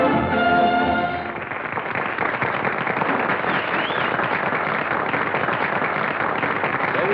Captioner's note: applause